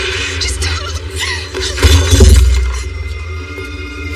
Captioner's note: cututlery rattltles; dramamatic music